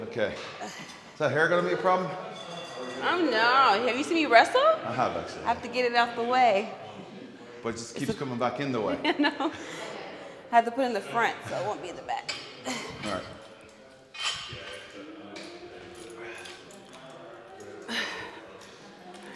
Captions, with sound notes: >> Okay, so here gonna be a problem. >> I don't know have you seen the restaurant? I have to get enough away. >> But just keeps coming back in the way. >> No [LAUGH] I had to put in the front so I won't be in the back.